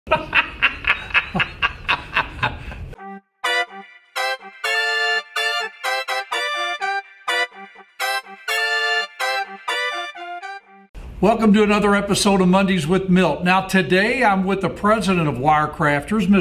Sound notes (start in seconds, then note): 0.1 laughs; 3.4 upbeat music